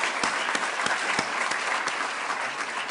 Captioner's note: applause